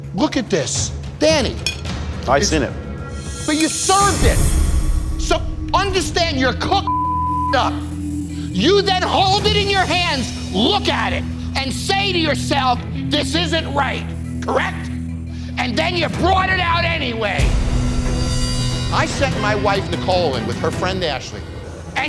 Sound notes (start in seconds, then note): 6.8 beep